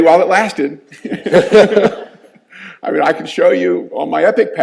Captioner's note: all laughing